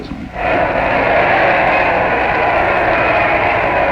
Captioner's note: crowd cheering